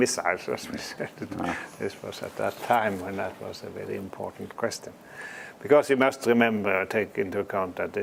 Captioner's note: laugh